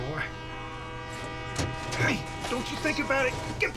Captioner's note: truck door opens